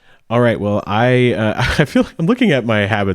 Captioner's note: chuckles